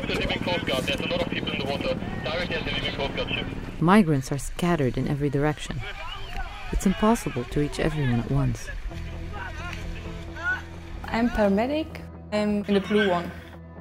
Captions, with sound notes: Migrants are scattered in every direction. It’s impossible to reach everyone at once. [yelling]